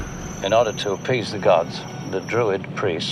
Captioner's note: digital whooshing